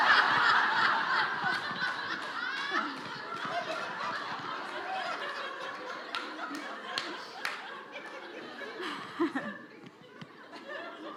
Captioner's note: laughter